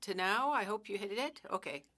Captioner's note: speaking French